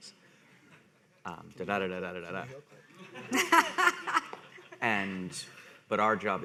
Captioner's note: people laughing